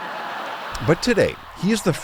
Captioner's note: laughter